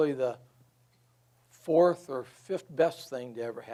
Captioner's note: none